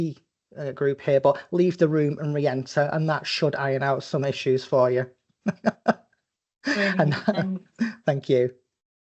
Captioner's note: laughing